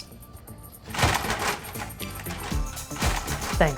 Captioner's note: loud clanking